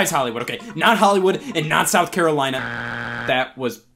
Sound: buzzer beeps

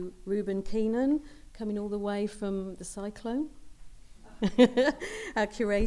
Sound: laughs

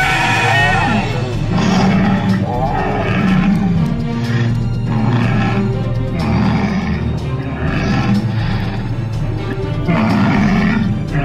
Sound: sinoceratop roaring

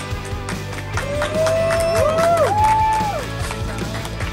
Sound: cheering & Clapping

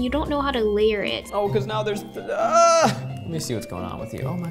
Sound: groans

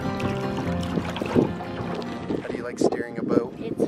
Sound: acoustic guitar; water ripples

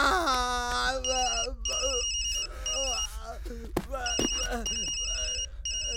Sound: phone rings

